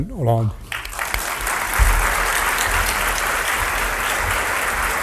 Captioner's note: audience applauds